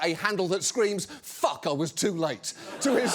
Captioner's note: audience laughs